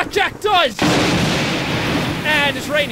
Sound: lightning

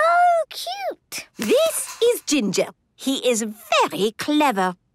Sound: squeaking

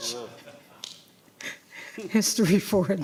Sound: laughter

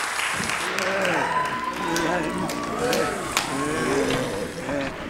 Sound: zombies moaning

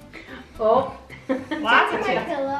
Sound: laughing

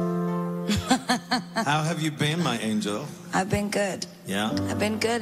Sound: laughs

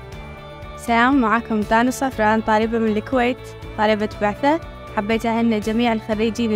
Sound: woman in white shirt speaking foreign language

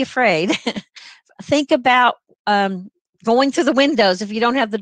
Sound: laughter

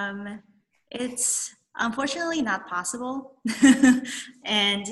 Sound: laughs

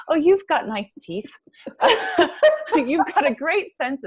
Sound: laughs

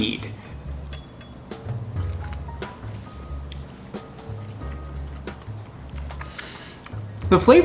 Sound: jazzy music; chewing

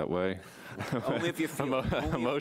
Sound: group chuckles

